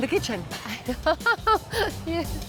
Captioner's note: laughs